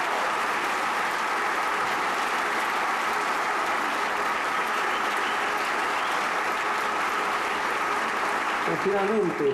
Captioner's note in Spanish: aplausos